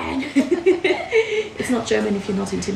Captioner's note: laughter